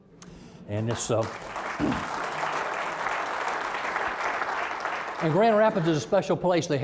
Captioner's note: applause